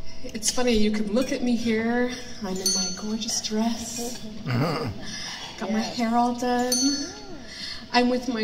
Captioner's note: laughter